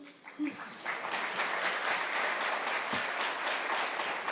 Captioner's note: audience applauding